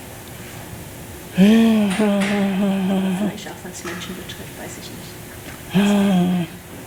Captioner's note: panelist speaking in foreign language